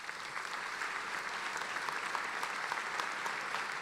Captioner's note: applauding